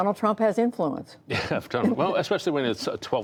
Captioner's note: laughter